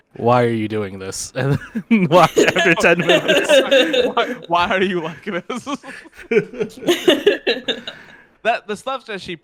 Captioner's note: laughing